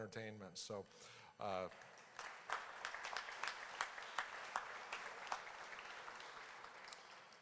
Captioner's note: applause